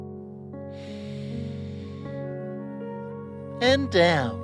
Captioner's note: breathes deeply